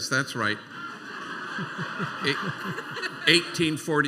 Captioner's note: laughter